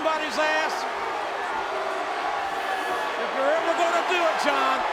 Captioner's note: spectators cheering